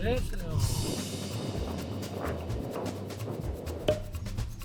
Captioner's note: whoosh